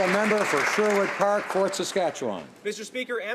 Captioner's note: applause